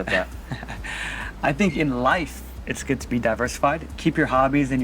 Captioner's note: chuckling